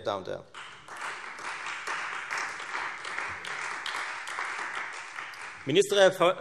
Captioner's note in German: Beifall Freie Demokraten und vereinzelt AfD